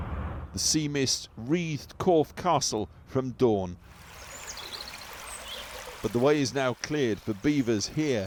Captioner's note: voice-over